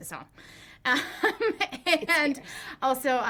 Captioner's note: laughs